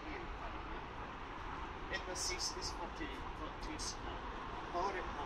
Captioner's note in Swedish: none